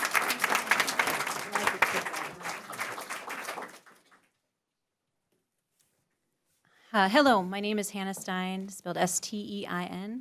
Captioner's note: applause